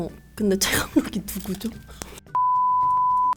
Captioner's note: laughs